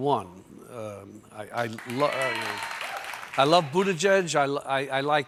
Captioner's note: cheers and applause